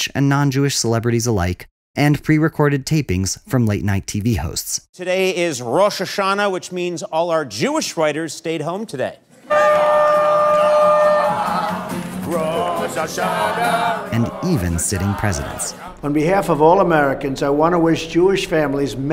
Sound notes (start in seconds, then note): 9.4 horn blowing; 9.4 people cheering